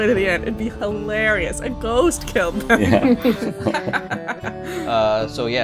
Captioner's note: laughter